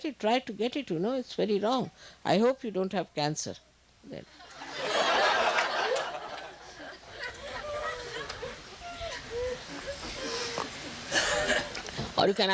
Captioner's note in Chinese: 笑聲